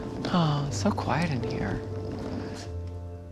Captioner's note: sighs